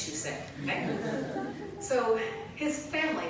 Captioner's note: laughter